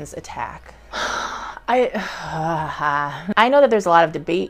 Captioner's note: sighs